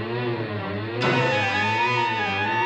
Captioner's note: thumps